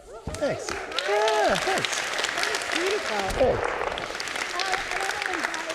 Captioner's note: audience clapping